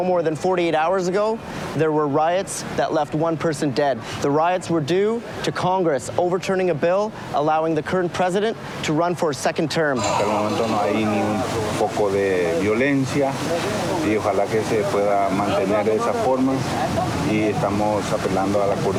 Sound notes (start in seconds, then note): 14.4 speaking In Foreign Language